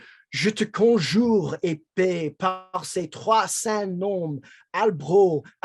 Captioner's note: speaking in foreign language